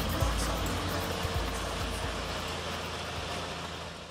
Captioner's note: bulldozer sounds